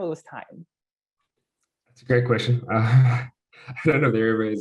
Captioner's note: laugh